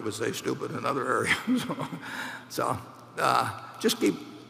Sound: laughs

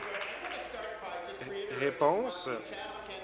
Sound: applause

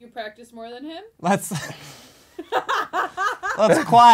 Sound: laughs

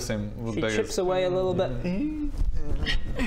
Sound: ungrateful wimpy noises

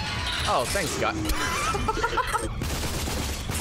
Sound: laughs

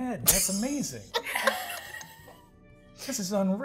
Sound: laughs

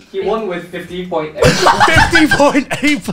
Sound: laughing

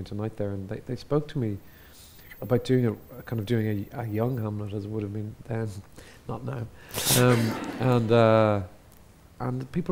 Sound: laughs

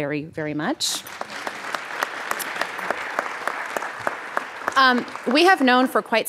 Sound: audience applauding

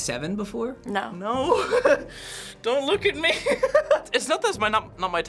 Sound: laughs

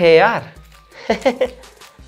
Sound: laughing

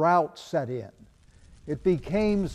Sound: fire crackling

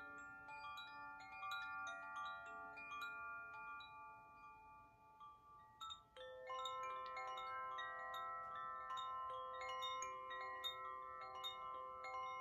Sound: chimes

